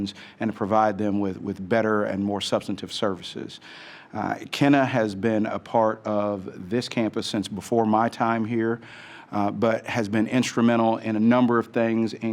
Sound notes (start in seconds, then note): none